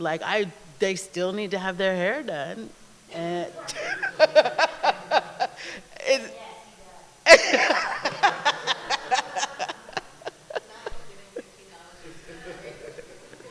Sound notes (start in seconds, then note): 3.6 laughter; 7.2 laughter